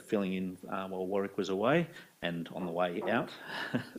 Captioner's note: chuckles